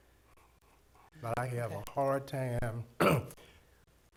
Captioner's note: clears throat